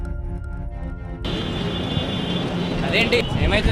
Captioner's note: ominous music playing; heavy traffic noise